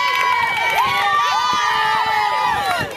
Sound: team cheers

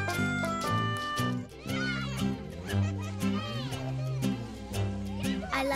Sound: children laughing

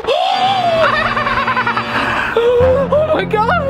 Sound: screaming; creepy cackling

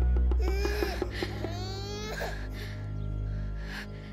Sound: baby crying; gasping

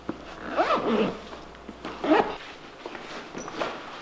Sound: zipper zipping

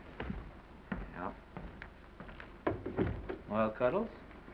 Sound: door closes

